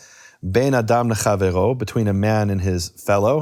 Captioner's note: speaking in foreign language